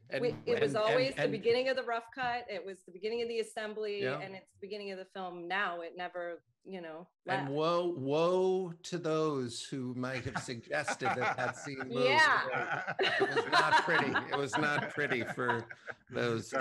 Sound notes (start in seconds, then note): 12.1 laughs